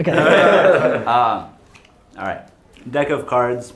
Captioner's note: laughter